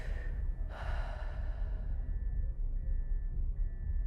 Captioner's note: sighs